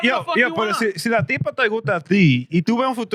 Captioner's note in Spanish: Hablando en idioma extranjero